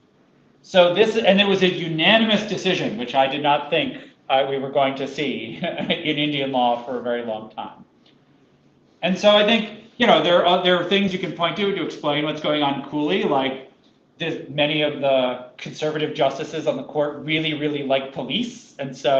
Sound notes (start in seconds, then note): 5.4 laughter